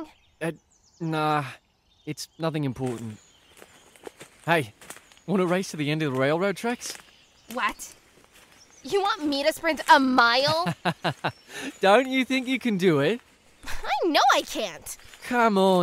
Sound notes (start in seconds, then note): 10.3 laughs